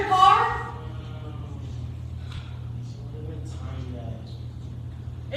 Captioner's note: groaning